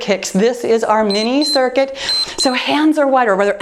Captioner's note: timer beeps